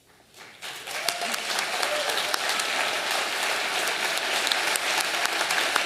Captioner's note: audience applauding